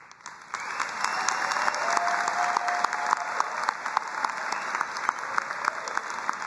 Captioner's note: crowd cheering and applauding